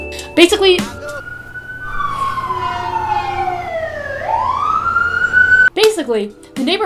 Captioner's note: siren